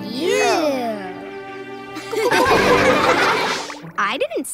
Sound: laughing

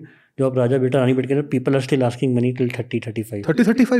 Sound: speaks in Hindi

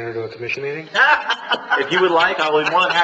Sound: laughter

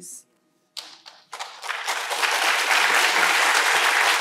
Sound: applause

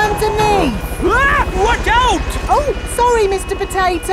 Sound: screams

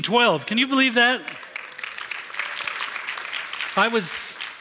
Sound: applause

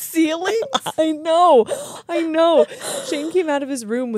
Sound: laugh

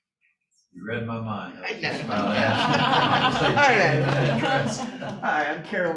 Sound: laughter

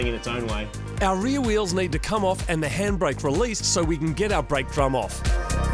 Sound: voiceover

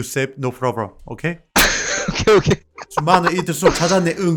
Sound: laughter

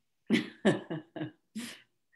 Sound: laughs

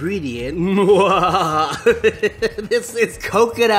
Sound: evil laughing

